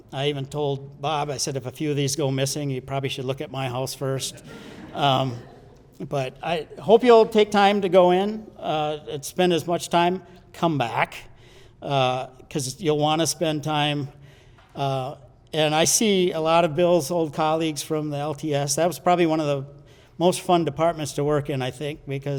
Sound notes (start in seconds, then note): 4.1 audience laughs